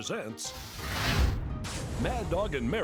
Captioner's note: fire blasts